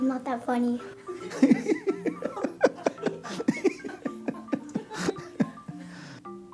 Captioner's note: laughter